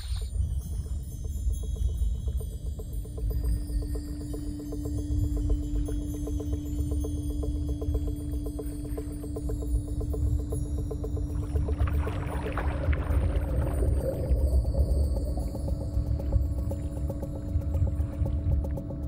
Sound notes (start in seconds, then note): 0.0 water splashing; 0.3 tense music; 11.7 water bubbling; 13.7 tense music